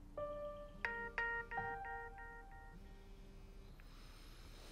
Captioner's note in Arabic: رنين الهاتف